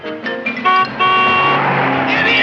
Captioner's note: horn honking